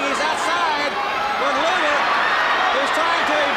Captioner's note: crowd cheering